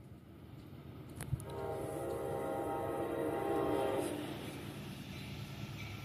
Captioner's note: horn